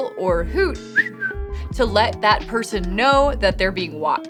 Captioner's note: whistles